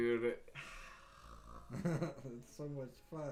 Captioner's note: laughs